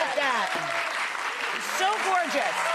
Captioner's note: audience applauding